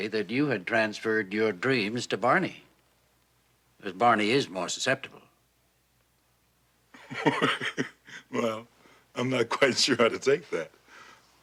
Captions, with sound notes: that you had transferred your dreams to Barney, as Barney is more susceptible. [laughs] - Well, I'm not quite sure how to take that,